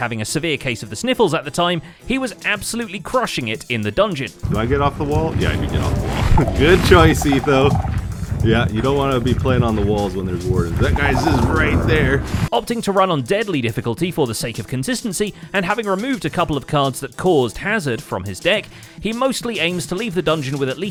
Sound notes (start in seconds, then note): 5.4 chuckles